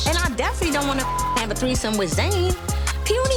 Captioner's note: beep